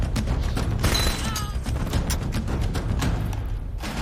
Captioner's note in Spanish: Quejido